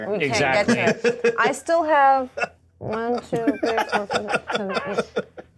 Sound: co-hosts laughing

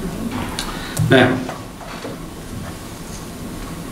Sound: coughs

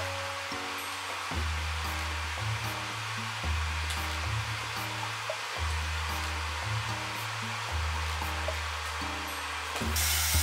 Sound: the electric kettle is making noise by itself

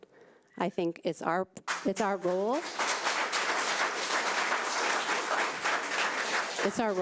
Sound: audience applauding

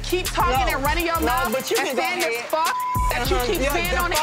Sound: beep

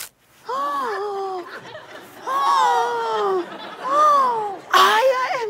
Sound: dramatic gasping; tears

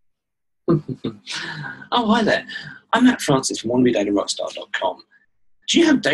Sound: laughter

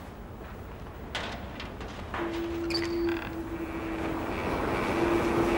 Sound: wind howling

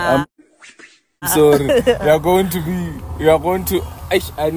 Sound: laughs

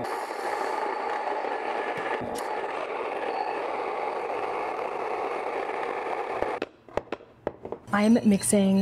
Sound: grain mill whirring

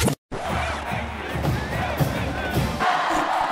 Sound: cheering

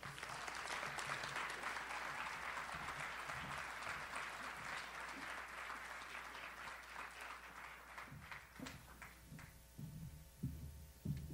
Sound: audience applauds

